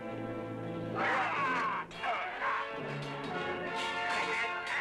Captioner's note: yelling, clanging